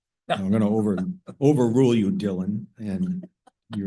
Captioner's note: laugh